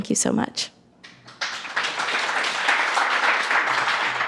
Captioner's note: audience claps